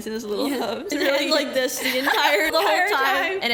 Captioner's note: laughs